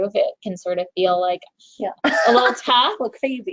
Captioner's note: chuckles